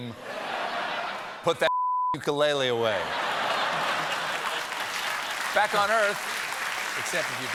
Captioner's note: laughter